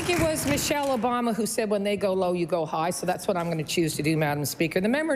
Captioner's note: applause